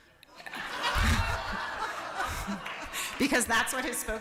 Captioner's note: applause